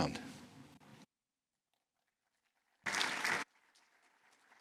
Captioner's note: applause